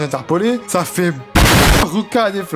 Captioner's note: loud explosion